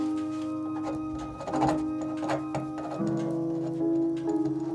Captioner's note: pen scratching